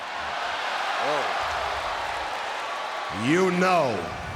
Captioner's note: audience laughs